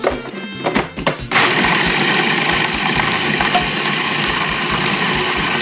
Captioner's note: food processor whirring